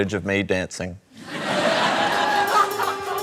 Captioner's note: laughter